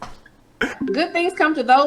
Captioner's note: laughing